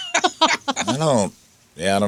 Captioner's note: laughing